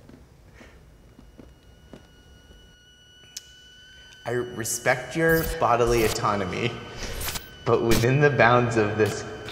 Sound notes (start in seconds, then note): 0.7 tea kettle squealing